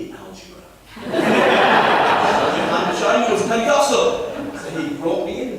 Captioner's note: laughter